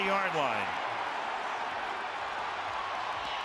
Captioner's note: crowd cheering